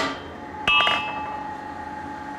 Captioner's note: metal clanging